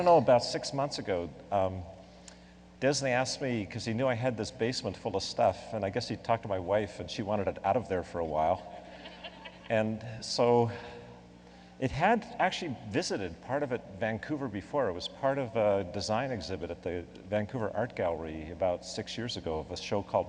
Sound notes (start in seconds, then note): 8.7 laughing